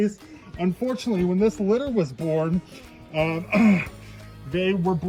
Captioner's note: clears throat